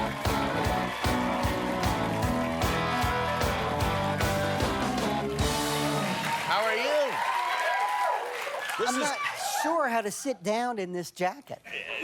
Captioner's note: cheers and applause